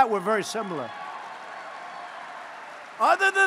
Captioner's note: applause